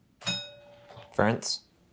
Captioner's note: bell rings